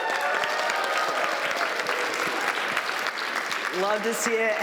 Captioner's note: applause